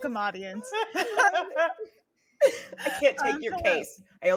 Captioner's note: laughing